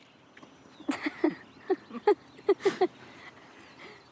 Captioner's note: laughing